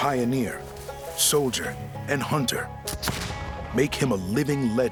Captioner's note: gunshot